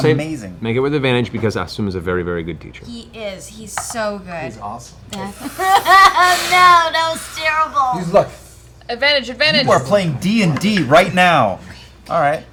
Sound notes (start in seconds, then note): 5.4 fake crying